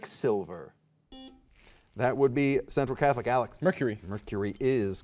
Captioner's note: soft beeping